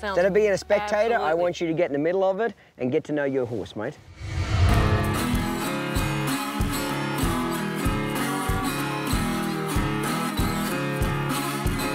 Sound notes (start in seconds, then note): 4.0 whoosh; 5.7 didgeridoo music